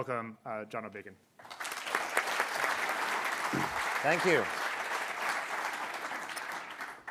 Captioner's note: applause